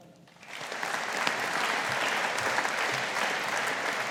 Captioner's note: audience applauding